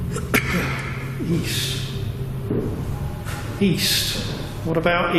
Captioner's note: coughing